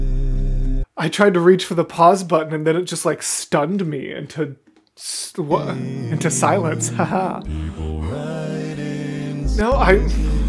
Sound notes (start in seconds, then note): 6.1 haha